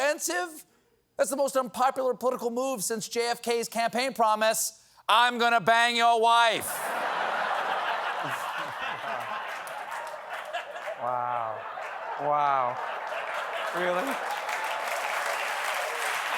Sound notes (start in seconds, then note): 6.7 laughter